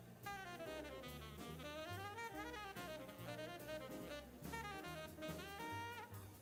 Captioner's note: upbeat jazz music continues; people chattering